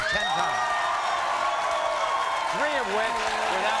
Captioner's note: audience cheers